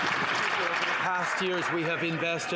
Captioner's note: some Applause